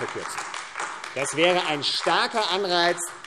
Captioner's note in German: Beifall AfD